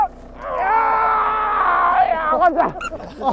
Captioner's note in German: angestrengtes Stöhnen